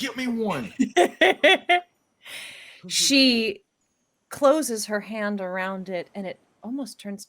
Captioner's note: laughs